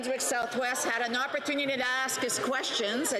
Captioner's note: mixed voices